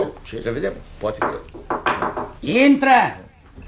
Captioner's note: knocking on the door